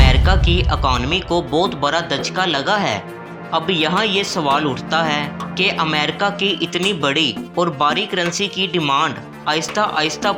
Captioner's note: impact